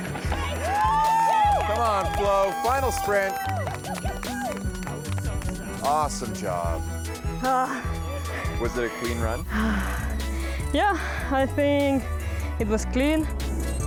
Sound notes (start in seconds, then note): 0.1 cheering; 7.5 sighs